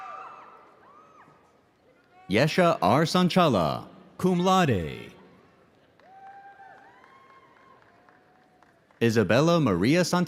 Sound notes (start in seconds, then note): 5.8 audience applauding; 6.0 audience cheering